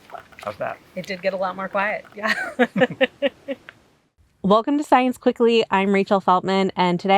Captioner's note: laughs